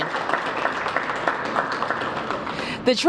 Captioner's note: applause